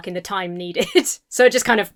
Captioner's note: chuckles